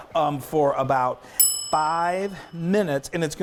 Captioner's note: bell dings